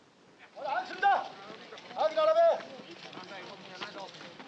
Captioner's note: shouting in Japanese